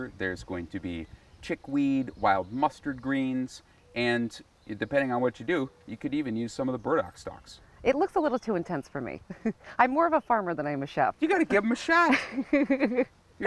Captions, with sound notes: there's going to be chickweed, wild mustard greens, and depending on what you do, you could even use some of the burdock stalks. - It looks a little too intense for me. [chuckles] I'm more of a farmer than I am a chef. - You got to give 'em a shot. [laughs]